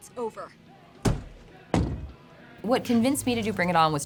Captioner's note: door slamming